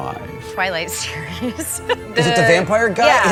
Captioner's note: laughs